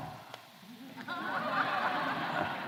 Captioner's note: laughter